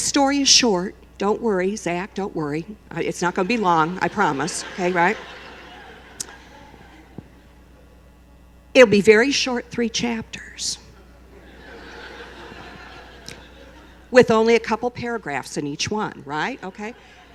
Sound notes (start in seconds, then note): 11.3 laughter